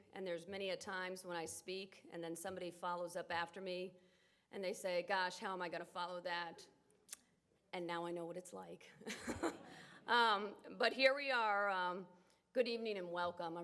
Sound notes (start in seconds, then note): 9.1 laughs